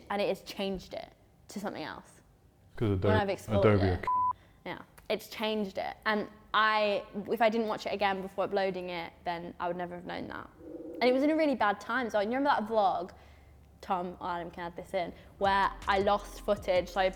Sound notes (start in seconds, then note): 4.0 beep; 10.7 howling wind